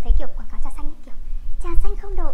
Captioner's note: Vietnamese